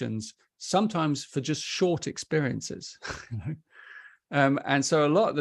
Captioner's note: chuckles